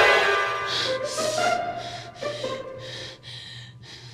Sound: heavy breathing

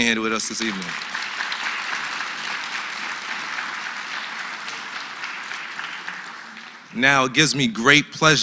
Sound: applause

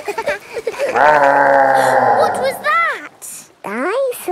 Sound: laughing; gasps; growling

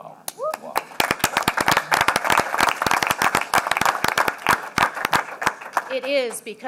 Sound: applause

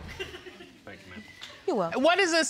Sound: audience chuckling

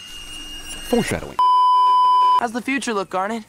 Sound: beeeeeep

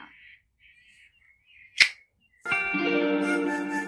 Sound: finger gun with tongue click

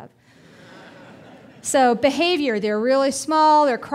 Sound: audience laughing

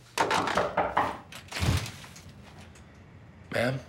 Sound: knocking

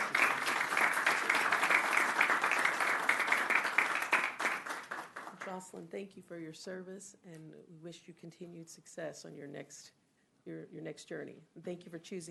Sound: applause

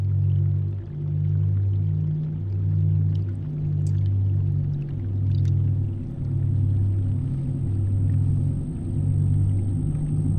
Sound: rumbling intensifies

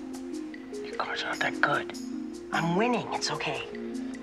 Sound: whispers

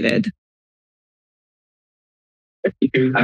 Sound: silence

